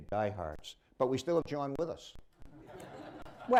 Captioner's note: laughter